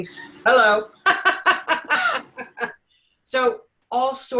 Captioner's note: both laughing